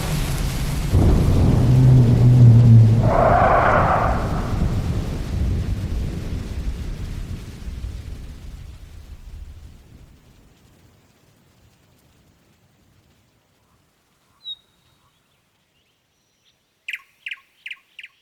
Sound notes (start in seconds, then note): 0.9 heartbeat stops; 1.5 creatures groan and roar; 7.4 rain dissipates; 14.4 birds chirping